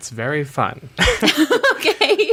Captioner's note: laughs